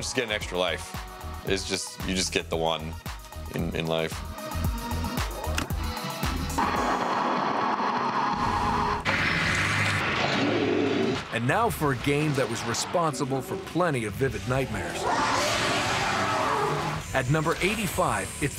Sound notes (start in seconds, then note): 7.7 crashing; 11.0 growling